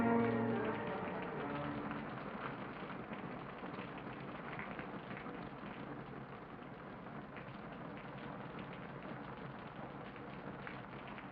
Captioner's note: rain patters